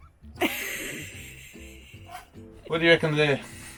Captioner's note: laughing